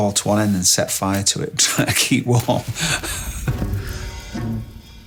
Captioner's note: laughs